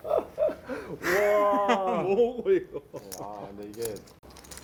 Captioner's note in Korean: 웃음